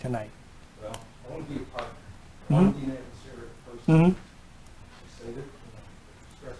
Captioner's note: speaking faintly